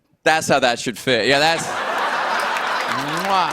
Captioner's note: laughter